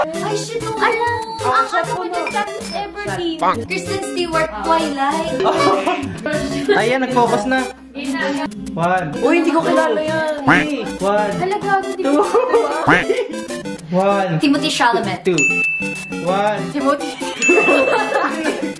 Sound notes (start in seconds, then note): 17.2 laughs